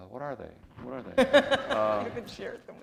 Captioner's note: chuckle